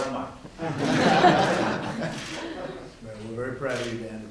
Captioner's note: laughter